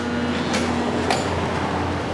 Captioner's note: lock buzzes